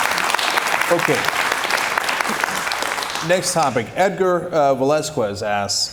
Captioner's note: cheers and applause